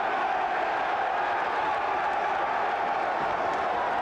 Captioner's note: crowd cheers